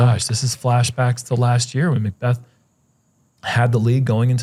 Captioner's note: none